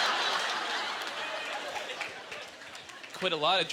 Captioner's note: audience laughter